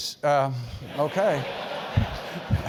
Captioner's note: laugh